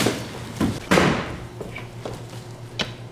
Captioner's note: slam